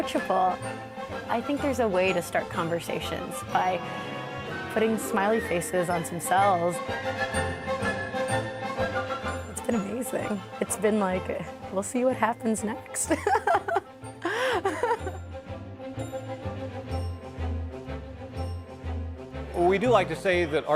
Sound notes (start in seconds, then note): 6.7 upbeat music; 14.2 laughs